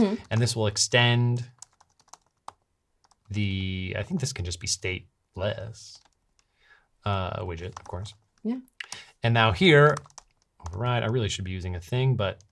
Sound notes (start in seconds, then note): none